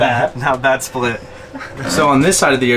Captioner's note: laughs